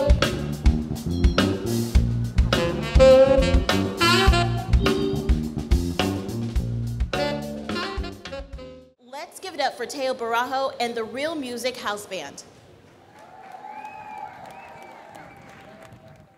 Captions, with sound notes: - Let's give it up for Teo Bijarro and the ReelMusic house band. (audience cheers)